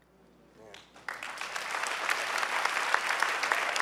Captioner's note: clapping